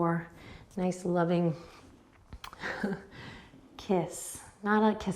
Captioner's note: chuckles